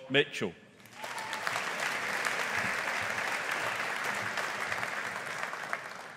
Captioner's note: audience applauding